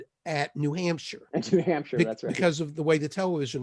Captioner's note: laughing